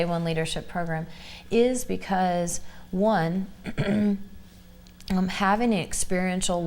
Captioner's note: clears throat